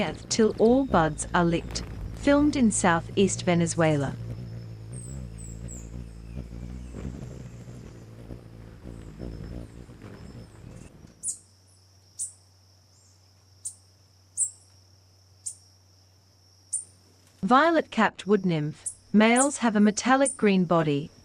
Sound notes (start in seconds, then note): 3.7 bird's wing flapping; 4.5 birds chirping; 11.1 bird chirping